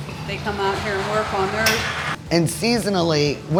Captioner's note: murmurs